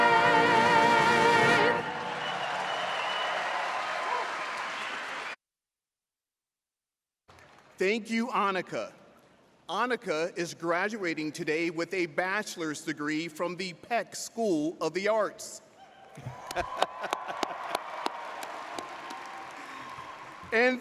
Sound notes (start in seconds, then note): 1.7 audience cheers; 16.0 audience cheers; 16.2 chuckles